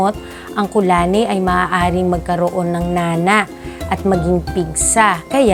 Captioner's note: boil